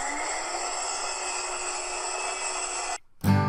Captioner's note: saw sound; drill sound